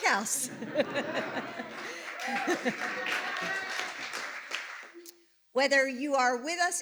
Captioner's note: laughter and Applause